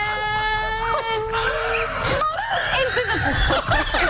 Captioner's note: laughter